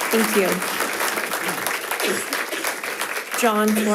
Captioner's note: audience applauding